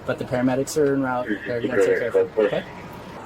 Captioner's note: radio chatter